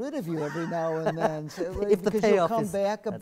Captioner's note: laugh